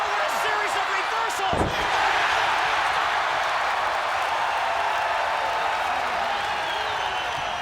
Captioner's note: applause